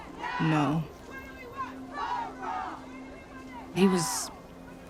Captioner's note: chanting continues